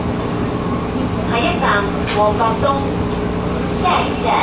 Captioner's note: Cantonese